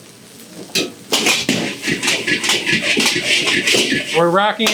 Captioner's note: wok clanging